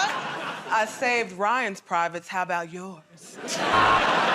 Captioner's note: sultry voice; laughter and applause; buzzer